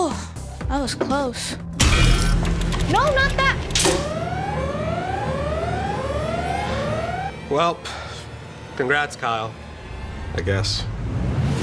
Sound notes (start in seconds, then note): 4.6 alarm buzzing